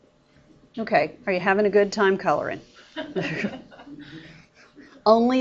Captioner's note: students and teacher laugh